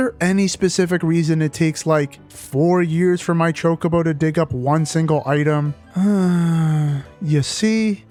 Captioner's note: sigh